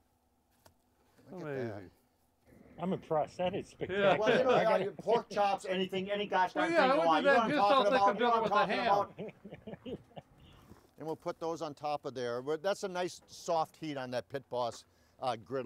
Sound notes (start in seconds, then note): 2.6 laughs; 9.4 laughs